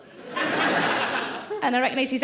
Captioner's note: audience laughing